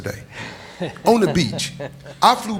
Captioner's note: laughing